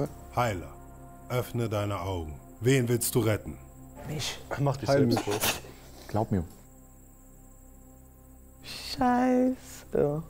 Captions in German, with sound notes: Heiler, öffne deine Augen. Wen willst du retten? Mich. Glaub mir. (Grillenzirpen) Scheiße.